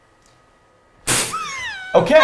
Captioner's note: chuckles